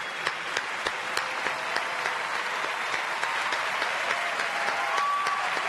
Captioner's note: audience cheers and applauds